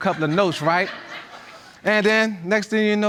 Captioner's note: audience laughing